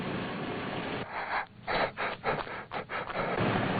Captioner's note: police radio chattering